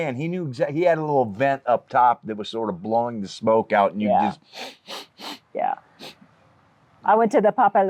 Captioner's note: sniff sniff sniff